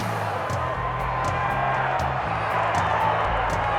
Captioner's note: audience cheers